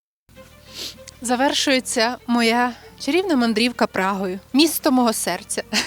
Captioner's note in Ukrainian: сопіння